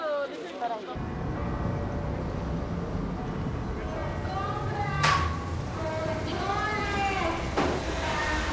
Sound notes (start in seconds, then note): 1.0 bell ringing